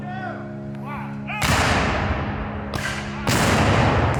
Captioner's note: cannons fire